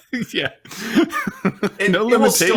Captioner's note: laughs